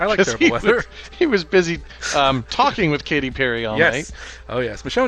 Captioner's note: talking